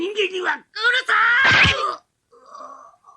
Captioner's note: SFX: stab